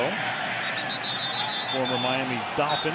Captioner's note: whistle blows